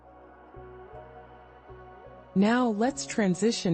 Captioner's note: pause